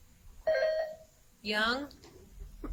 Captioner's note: buzzer chimes